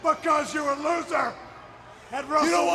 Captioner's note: overlapping chatter